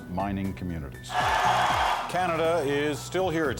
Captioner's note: cheering